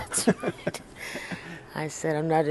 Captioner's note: laughter